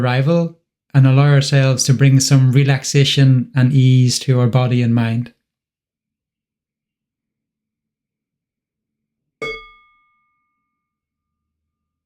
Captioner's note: one sound of the bell